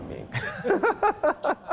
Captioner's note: laughter